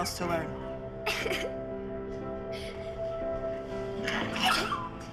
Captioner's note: crying